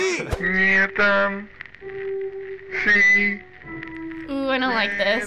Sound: woman speaking in reverse

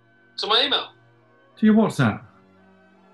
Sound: none

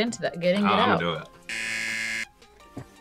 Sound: buzzer

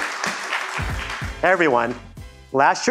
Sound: applause

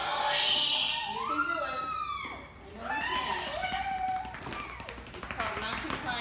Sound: screaming

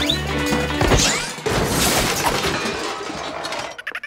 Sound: loud crash, paint cans clatter

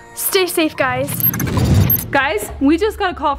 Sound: digital interference

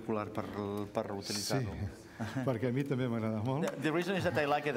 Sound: speaking catalan

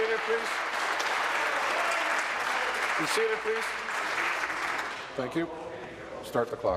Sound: applause

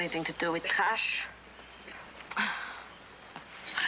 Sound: sighs

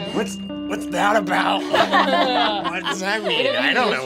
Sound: laughing

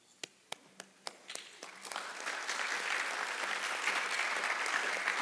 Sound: audience applauding

